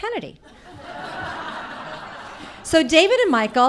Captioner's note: audience laughing